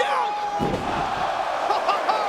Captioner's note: spectators exclaiming; chuckling